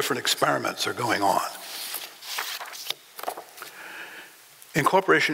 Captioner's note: papers being moved